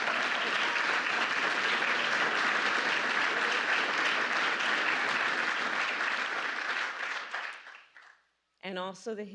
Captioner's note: applause